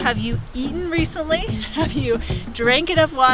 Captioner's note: chuckles